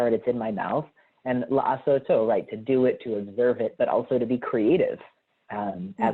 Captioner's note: hebrew